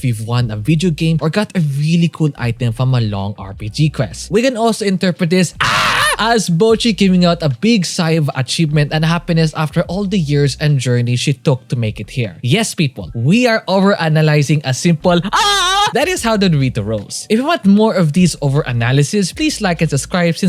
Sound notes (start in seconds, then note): 5.6 adolescent "AHHH"s; 15.2 manly "AHH"s